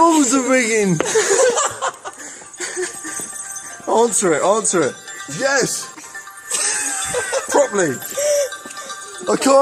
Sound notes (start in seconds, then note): 1.0 laughing; 6.4 laughing